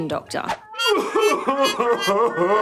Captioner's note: sobbing